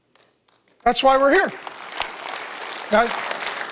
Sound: audience applauds

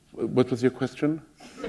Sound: laughter

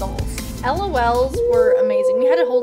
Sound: ominous howling

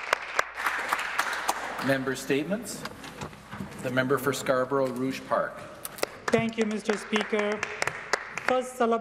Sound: some Applause

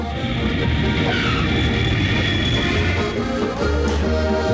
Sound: airplane hums

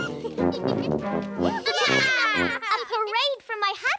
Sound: laughing

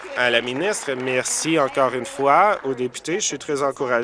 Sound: applause

